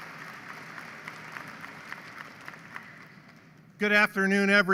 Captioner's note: applause